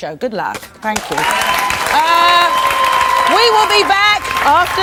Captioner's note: audience cheers and applauds